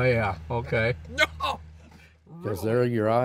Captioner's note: laughs